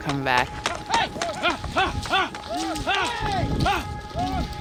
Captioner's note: yelling